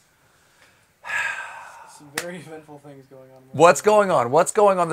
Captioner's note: sighs